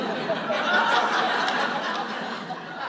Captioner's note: audience laughs